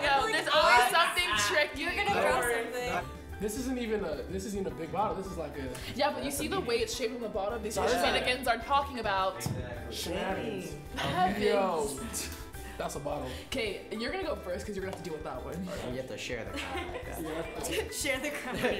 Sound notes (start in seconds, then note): 16.5 giggling